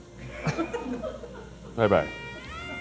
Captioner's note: crew laughing; sensual saxophone music